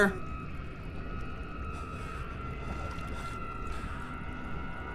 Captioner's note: eerie ambience